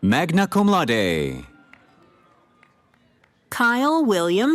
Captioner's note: cheering